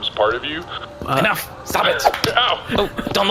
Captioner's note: slap